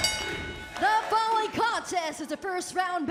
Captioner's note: bell ringing